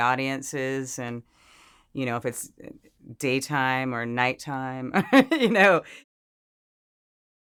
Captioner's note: laughs